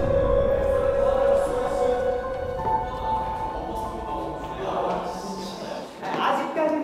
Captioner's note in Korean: 멀리서 웅성거리는 소리